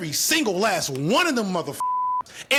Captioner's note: beep